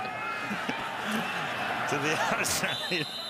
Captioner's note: laughter